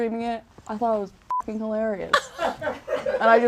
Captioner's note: beep; audience laughs